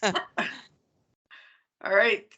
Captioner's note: people chuckling